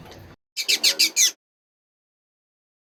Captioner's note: bird squawks